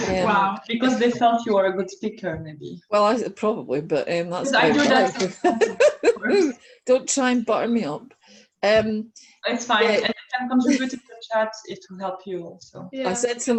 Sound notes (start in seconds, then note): 4.8 laughing and people talking over each other